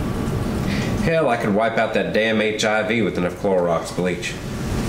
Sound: Ned sighs

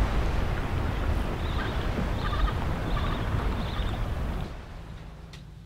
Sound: birds chirping

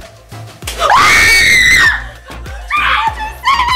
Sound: screams

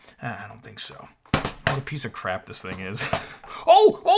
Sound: snickers

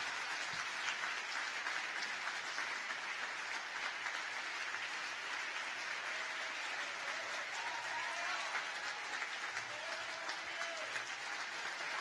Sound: applause

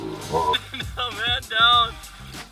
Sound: laughter

